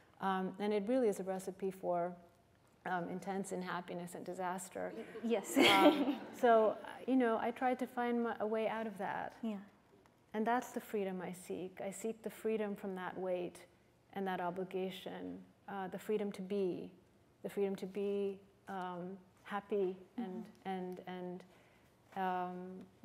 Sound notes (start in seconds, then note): 5.0 laughter